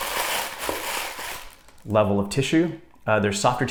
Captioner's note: paper crinkling